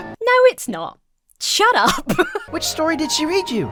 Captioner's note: Emma laughs